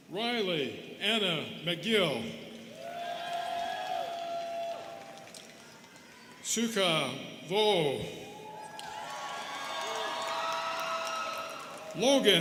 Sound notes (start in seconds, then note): 2.7 students cheering and clapping; 8.2 students cheering and clapping